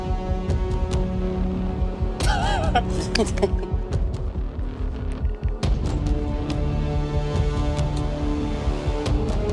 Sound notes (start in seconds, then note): 2.2 people laughing; 3.6 dramatic music continues